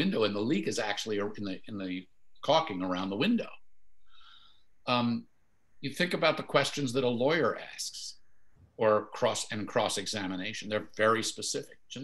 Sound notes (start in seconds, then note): none